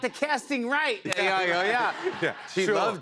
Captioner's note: laughter